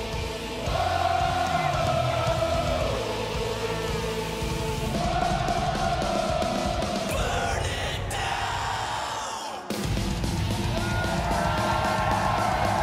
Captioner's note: crowd chanting